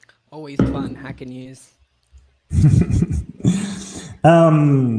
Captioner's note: chuckling